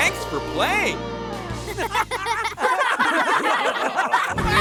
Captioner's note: laughing